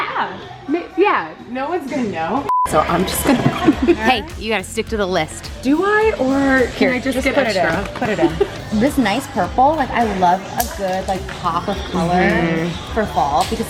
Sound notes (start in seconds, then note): 2.5 beep; 2.7 laughs